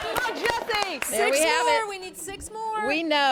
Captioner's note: cheering